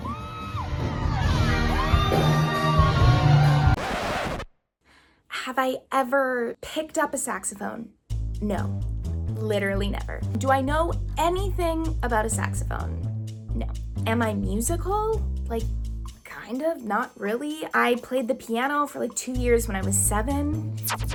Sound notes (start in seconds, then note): 0.0 crowd cheering; 3.6 record scratching